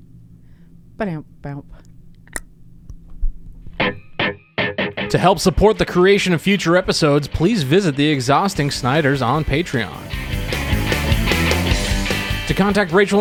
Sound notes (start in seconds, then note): 2.2 tongue clicks; 5.0 upbeat music